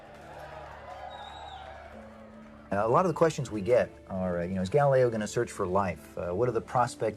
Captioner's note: crowd cheering